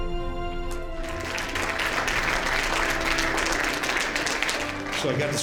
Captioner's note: applause